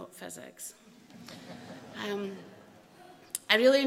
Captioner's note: laughter